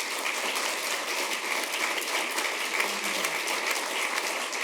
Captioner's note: applause